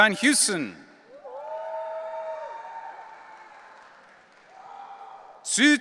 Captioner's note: audience cheering